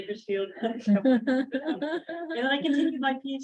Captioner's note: chuckling